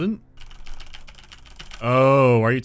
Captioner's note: hectic typing